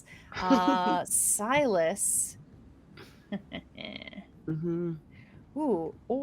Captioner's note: chuckles; snickers